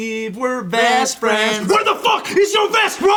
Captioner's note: yelling in gravelly voice